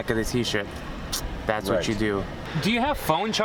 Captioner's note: clicks tongue